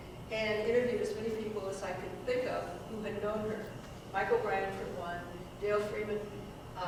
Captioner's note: none